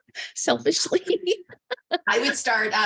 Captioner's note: laughs; chuckles